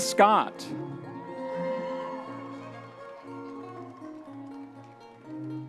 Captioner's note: audience members cheering